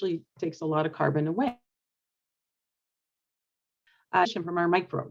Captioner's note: sound mutes